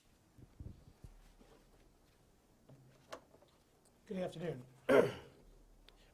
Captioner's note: clears throat